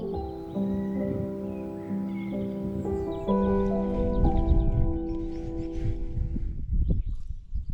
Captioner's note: bird song